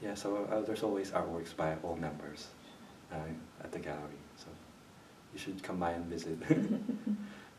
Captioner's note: laughs